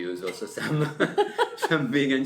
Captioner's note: laughs